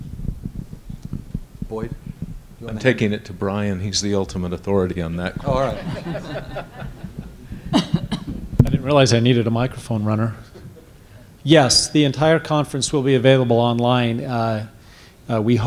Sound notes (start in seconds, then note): 5.4 laughter